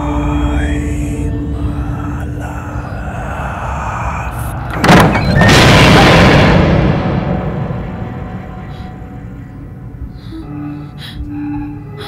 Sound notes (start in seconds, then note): 4.7 door opening